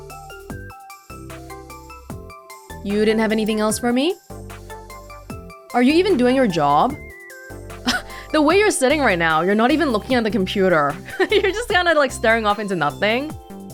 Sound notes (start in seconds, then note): 7.8 scoffs; 11.0 chuckles